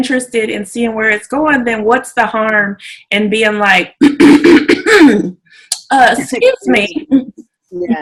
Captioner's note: clears throat